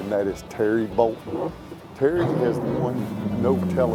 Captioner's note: boat engine revving